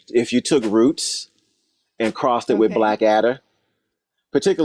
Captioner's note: whoosh